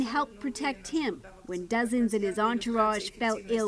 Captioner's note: speaking Foreign Language